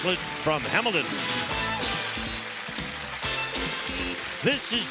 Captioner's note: applause, theme music